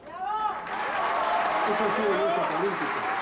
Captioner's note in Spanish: Aplausos